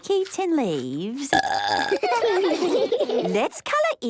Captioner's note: burping; children giggling